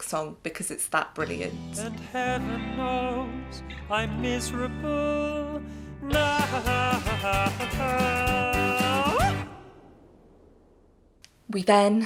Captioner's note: whoop